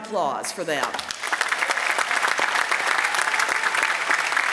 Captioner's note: applause